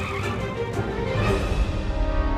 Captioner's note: tires squeal